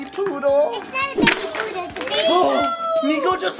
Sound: crashing noise

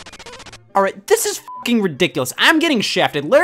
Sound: beep

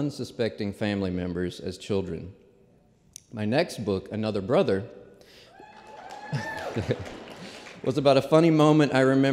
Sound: applause

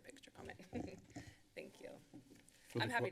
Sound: giggles

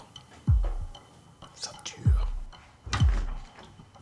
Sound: whispering

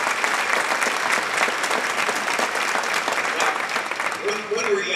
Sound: clapping

